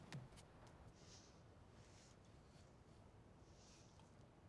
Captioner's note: none